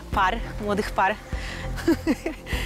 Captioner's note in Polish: śmiech